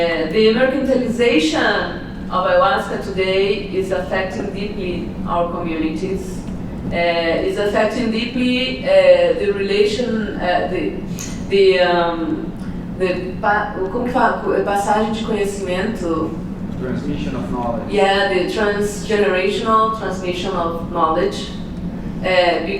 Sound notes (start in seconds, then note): 13.4 foreign language